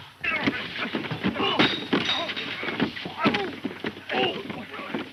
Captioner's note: men grunting